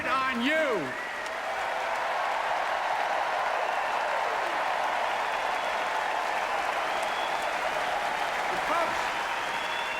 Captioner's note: applause